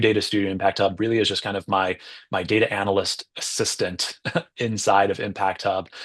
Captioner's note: laughs